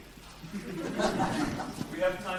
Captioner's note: audience laughs